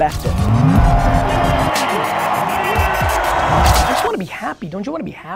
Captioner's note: crowd cheers